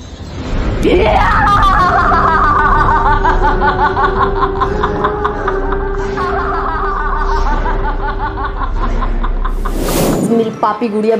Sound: evil laugh

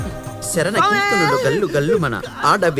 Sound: Dummy chants

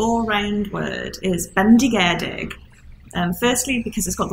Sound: speaking Welsh

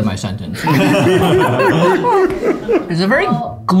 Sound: all laughing

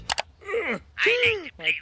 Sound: Homer grunting

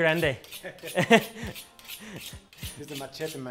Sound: both laughing

